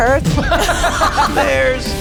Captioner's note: laugh